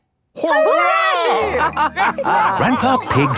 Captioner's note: all laughing